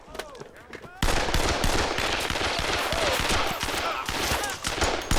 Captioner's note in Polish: policaje histerycznie wrzeszczōm